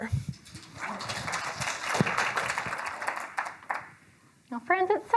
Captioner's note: attendees applauding